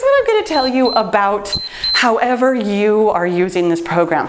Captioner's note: timer beeps